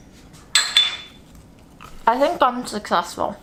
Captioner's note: plates clinking